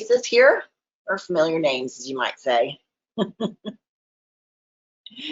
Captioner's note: chuckles